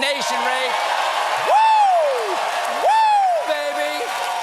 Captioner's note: cheers and applause